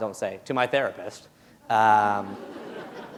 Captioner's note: laughter